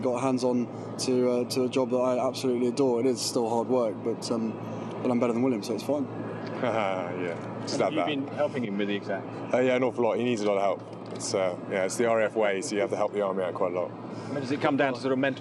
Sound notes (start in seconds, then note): 6.5 chuckles